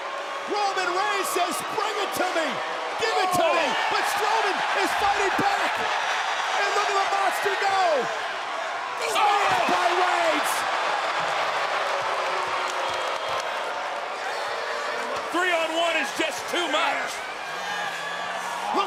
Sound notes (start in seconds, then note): 10.6 applause